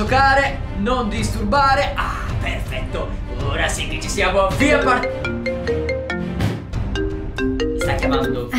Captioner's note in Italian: squilla il cellulare di Cap